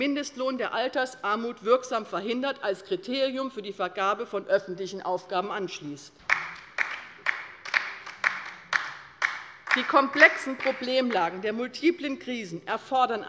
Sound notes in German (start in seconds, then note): 6.2 Beifall bei der LINKEN